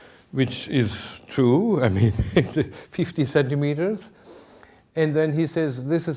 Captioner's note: chuckling